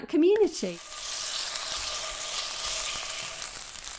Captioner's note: sizzling